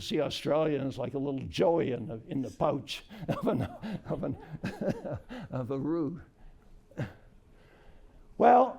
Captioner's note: laughter